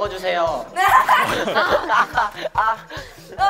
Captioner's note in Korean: 찰싹찰싹